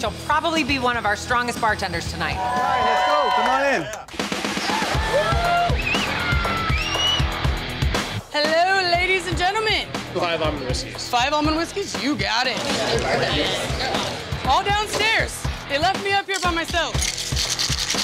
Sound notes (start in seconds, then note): 4.4 customers cheering